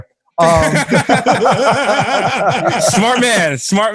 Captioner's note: laughter